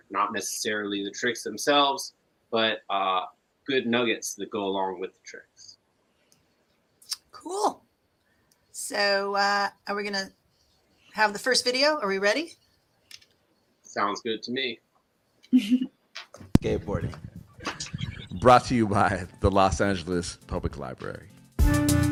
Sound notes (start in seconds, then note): 15.5 laughs; 21.5 upbeat music